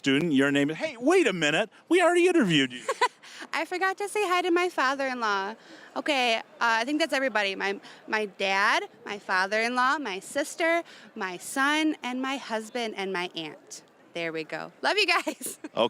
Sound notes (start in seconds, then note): 2.6 chuckling